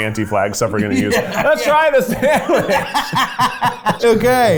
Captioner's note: both laugh